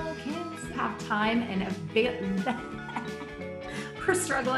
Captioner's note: laughing